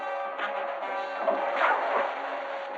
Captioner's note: water splashing